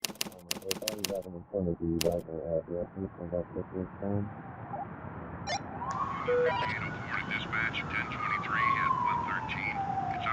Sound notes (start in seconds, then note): 0.0 typewriter clacking; 4.7 walkie-talkie beep